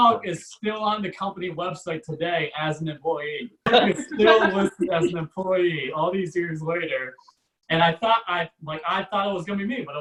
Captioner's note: audience Laughs